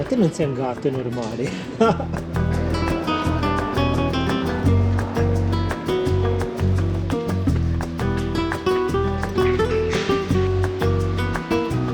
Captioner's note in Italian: Applauso